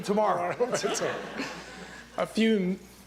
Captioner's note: laughter